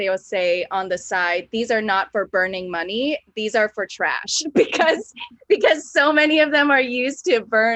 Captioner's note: laughs